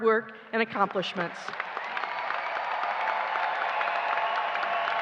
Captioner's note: applause